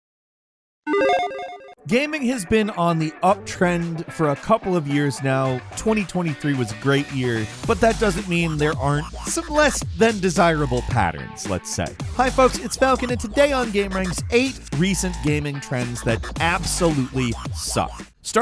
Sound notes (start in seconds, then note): 0.9 electronic sound effect; 12.2 upbeat music